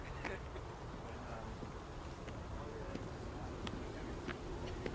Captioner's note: people chattering indistinctly